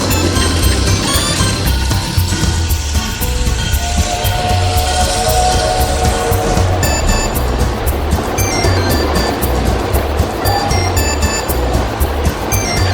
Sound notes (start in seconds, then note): 3.6 train whistle; 7.5 upbeat music